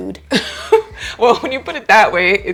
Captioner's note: laughs